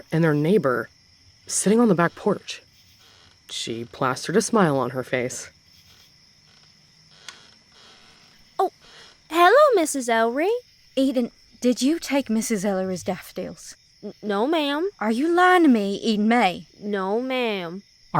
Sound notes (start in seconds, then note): 9.0 sweetly